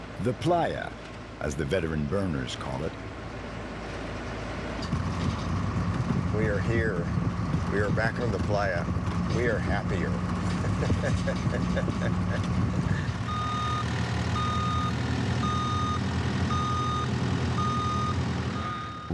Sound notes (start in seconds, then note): 10.5 laughing; 13.6 truck beeping